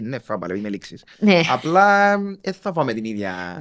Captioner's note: she laughs